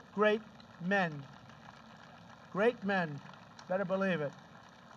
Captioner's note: applause